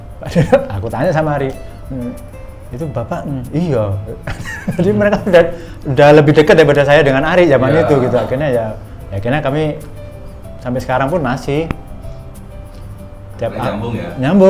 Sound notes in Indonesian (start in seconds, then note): 4.2 tertawa